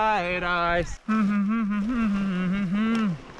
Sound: humming song

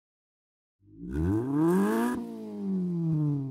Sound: engine revs

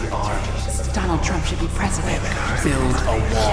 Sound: man whispering; woman whispering; man whispering

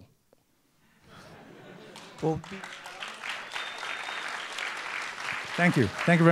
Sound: laughter

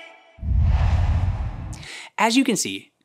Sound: logo swooshes

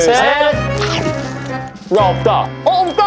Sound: crunching ASMR

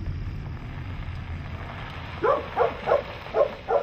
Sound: dog barks

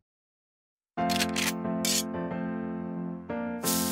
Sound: gun clicks

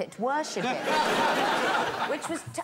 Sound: laughter

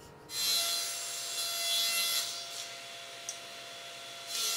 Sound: table saw whirring

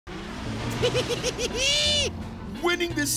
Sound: laughing

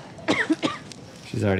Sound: coughing

